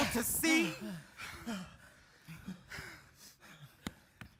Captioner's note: group panting